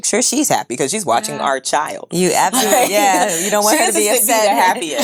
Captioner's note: laughs